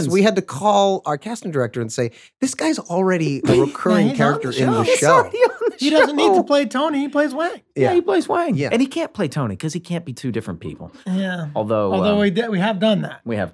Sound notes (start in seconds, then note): 3.4 laughs